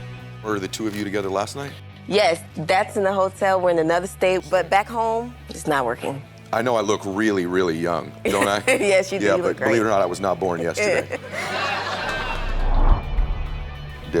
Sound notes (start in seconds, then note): 8.2 laughs; 10.4 audience laughs